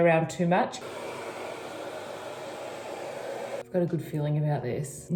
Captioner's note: hair dryer blowing